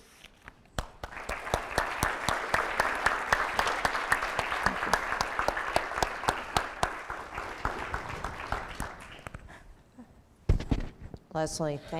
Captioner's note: applause